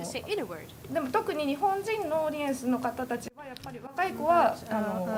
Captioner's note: speaking japanese